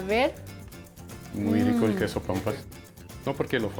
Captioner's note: speaking Spanish